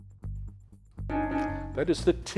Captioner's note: timer beeping